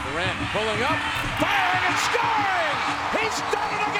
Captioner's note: crowd cheering